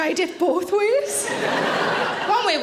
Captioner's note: audience laughing